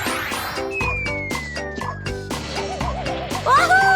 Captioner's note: whistling